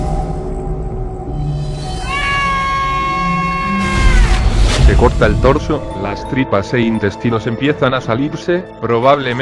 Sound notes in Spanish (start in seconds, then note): 1.9 Gritos